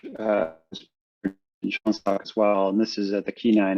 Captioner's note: voice breaks up